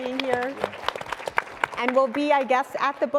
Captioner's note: audience applauding